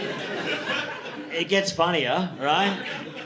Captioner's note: audience laughing